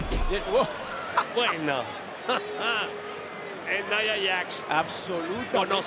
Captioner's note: laugh